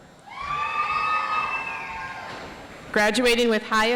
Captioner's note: audience applauds